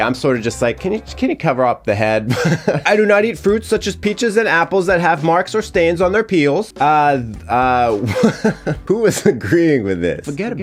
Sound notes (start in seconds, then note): 2.2 chuckling; 7.9 chuckling